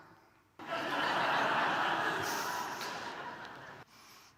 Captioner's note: audience laughing